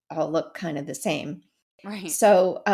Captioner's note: laugh